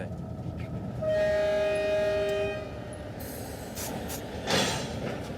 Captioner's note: train horn blaring